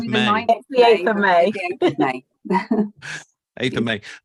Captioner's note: chuckles